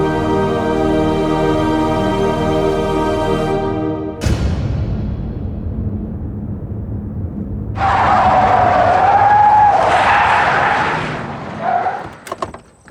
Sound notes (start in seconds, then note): 7.7 tires screeching